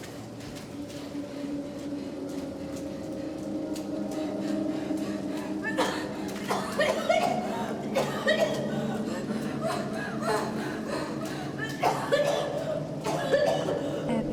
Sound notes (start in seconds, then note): 0.6 Abby pants; 0.6 ominous music; 5.9 Abby coughs; 11.7 Abby pants and coughs